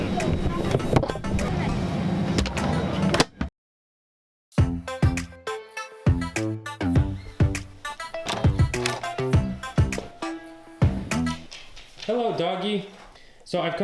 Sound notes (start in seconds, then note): 0.2 upbeat music; 3.0 clicks closed; 4.6 upbeat music